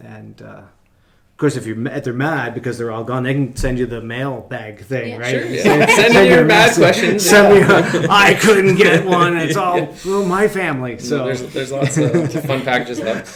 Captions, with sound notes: And of course if they're mad because they're all gone, they can send you the mail bag thing, right? - Yeah. (laughing) - Sure, send me your mad questions! (laughing) - Send me an I couldn't get one, it's all through my family. - Yeah, there's lots of fun packages left.